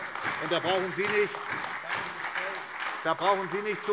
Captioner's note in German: Beifall SPD, AfD und Freie Demokraten